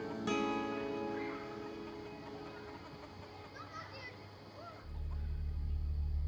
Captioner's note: chickens clucking; children shrieking and chattering; soft suspenseful music